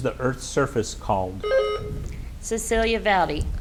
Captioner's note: buzzer beeps